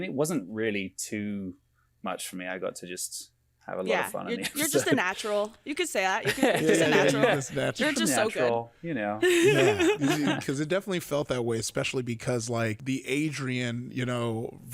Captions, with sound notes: it wasn't really too much for me. I got to just have a lot of fun. - Yeah, you're just a natural, you could say that, you could say natural. - Yeah, yeah, yeah, you could say natural. - You're just so good. - Just a natural, you know? (all laughing) - 'Cause it definitely felt that way, especially because like the Adrian, you know,